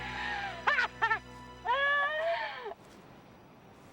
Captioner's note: Taryn laughing